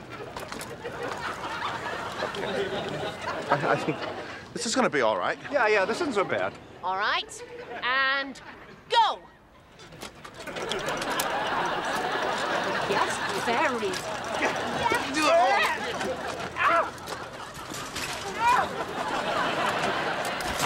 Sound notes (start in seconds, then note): 15.9 Niles screams; 17.7 bikes clattering